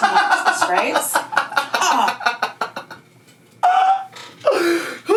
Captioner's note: laughing